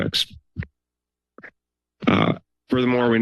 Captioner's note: pause